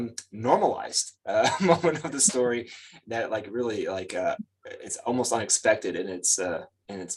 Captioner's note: chuckles